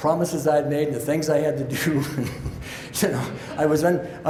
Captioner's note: chuckles